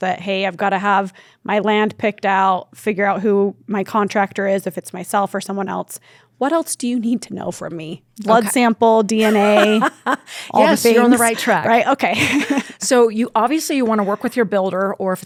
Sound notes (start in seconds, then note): 9.2 laughs